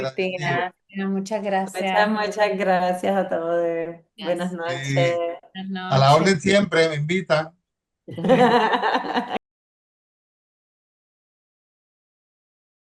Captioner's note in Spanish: risas